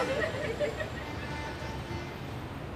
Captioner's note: horn honking